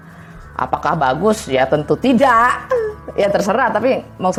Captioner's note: laughing